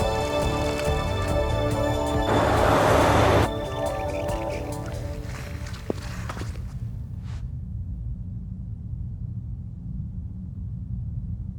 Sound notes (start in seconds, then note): 3.5 bike squeaking